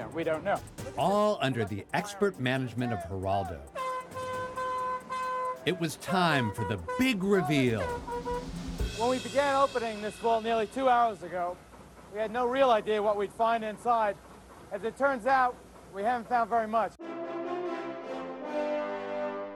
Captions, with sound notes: We don't know. -...all under the expert management of Geraldo... [ Air horn blaring ] ...it was time for the big reveal! [ Drumroll, cymbals clash ] -When we began opening this vault nearly two hours ago, we had no real idea what we'd find inside. As it turns out, we haven't found very much. [ Triumphant music climbs ]